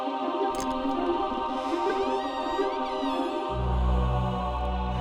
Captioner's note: door clicks and creaks